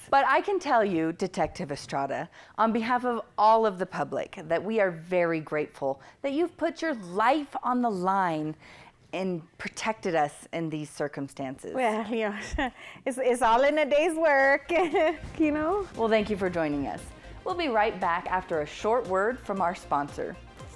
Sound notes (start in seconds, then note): 14.9 chuckles